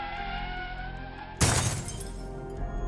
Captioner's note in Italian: stridere di ruote sull'asfalto; crash!